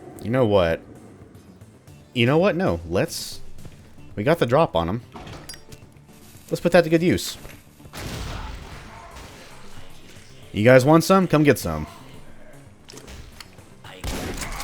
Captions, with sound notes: you know what... you know what? No, let's... we got the drop on them, let's put that to good use. *KABOOM* You guys want some? Come get some. *Shotgun blasting*